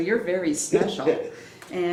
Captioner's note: laughs